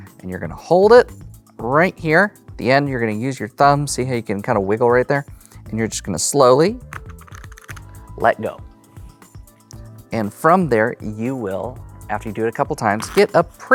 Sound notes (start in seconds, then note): 6.9 cards riffling; 13.0 cards riffling